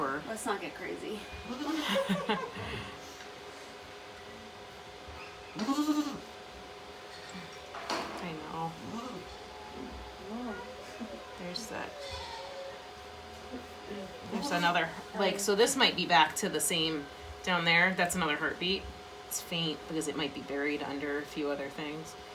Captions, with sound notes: Let's not get crazy! [laughing] [Maybel bleating] I know There's that... There's another. Like, so this might be back to the same...down there. That's another heartbeat. It's faint because it might be buried under a few other things.